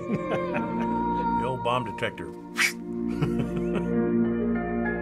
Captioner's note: chuckles; makes whipping sound, chuckles